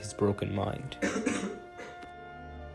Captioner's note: coughs